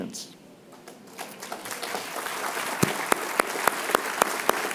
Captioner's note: applause